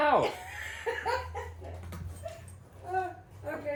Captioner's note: laughing